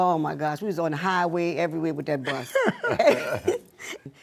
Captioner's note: laughter